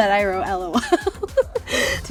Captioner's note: laughing